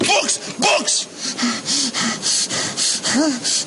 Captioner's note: breathing heavily and rapidly